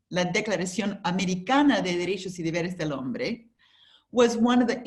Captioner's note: speaks Spanish